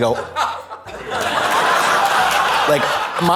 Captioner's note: audience laughs